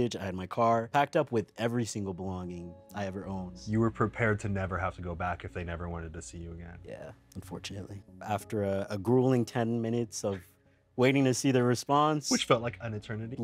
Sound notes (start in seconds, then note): none